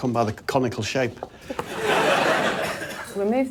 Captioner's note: laughter